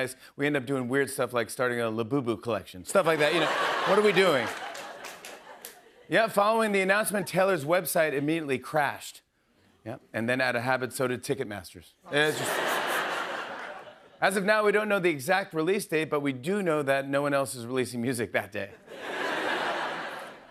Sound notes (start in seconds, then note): 3.1 laughter; 12.1 laughter; 18.8 laughter